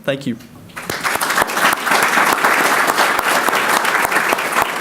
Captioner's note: audience clapping